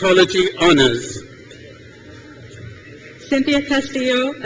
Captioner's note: crowd cheers